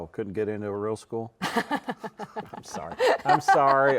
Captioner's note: both laughing